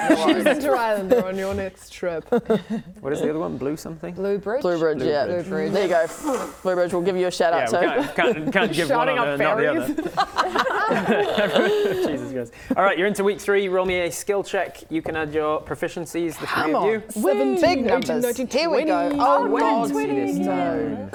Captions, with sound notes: Choose inter-islander on your next trip What is the other one, Blue something? Blue Bridge? Blue Bridge, yeah Blue Bridge There you go, Blue Bridge we'll give you a shout out too Yeah, we can't give one and not the other - Shouting out ferries *laughing* Jesus Christ All right, you're into week three Roll me a skill check You can add your proficiencies Come on - The three of you Big numbers, here we go - 17, 18 19 20 Oh a nat 20 again! - Oh god no - 20 this time